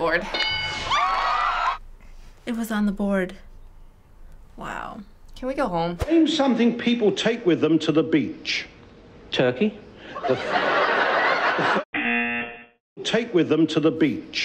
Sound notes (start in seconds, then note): 10.1 audience laughing; 12.0 buzzer